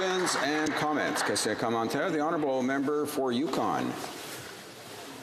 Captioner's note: applause